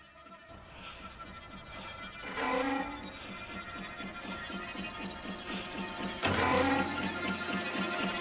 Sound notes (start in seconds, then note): 1.5 clock ticking